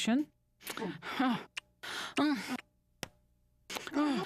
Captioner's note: moaning